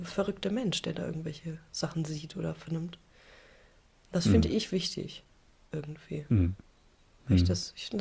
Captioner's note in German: räuspern